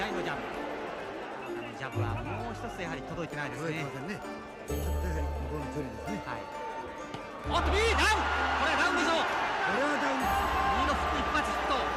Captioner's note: crowd cheers